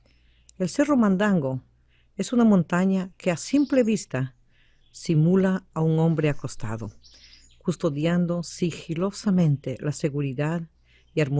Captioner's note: VOICE-OVER in Spanish